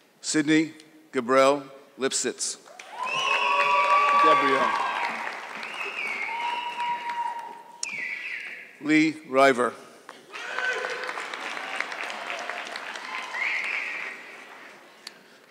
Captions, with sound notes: Sydney Grabriel Lipsitz. (audience clapping) Lee River. (audience clapping)